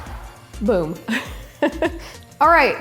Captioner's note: laughs